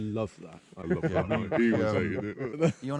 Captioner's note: policeman 2 laughing